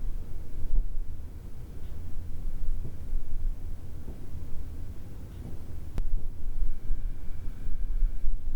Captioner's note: sounds of rumbling wind & knocks